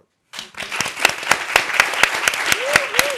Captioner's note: applause